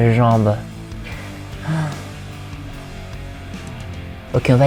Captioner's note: sighs